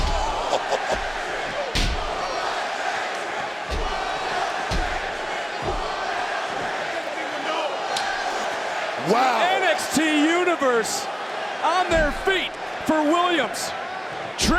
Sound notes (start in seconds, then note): 0.3 chuckles; 2.1 crowd chants "Whoop that Trick"